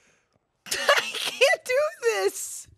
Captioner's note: laughs